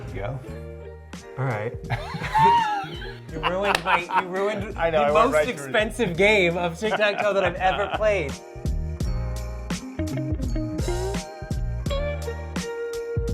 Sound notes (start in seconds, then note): 1.9 both laughing; 1.9 laughing; 8.6 light music